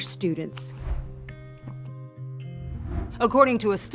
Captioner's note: screen whooshing